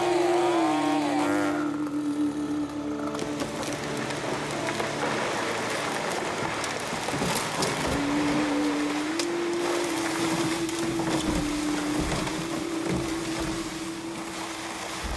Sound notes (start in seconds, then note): 4.1 crashing trees; 13.1 trees crashing